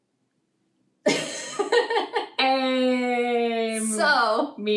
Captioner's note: laughter